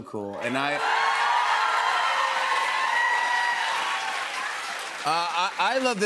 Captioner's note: cheers and applause